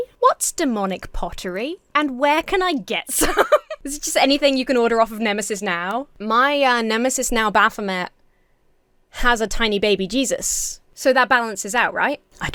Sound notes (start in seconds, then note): 3.1 laughs